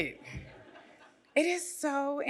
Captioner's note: audience laughs